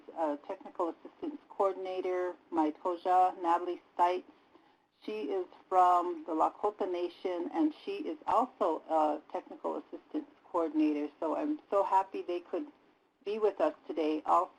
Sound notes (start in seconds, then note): 3.1 native language spoken